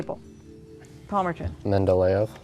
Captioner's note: ding